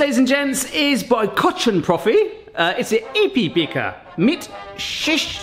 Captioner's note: reads label in German